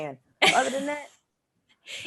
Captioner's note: Desi laughs